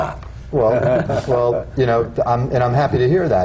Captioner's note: laughter